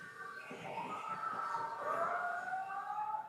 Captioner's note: cheering